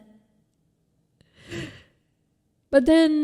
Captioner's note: breathes heavily